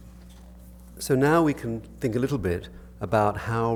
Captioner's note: voiceover